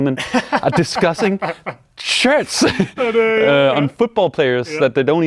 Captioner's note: laughs